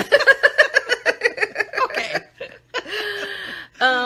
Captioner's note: laughing